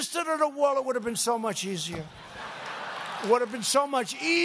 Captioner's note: laughter